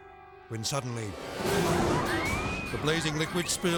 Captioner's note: people screaming